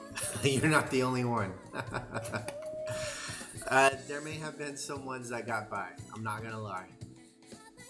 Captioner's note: laughter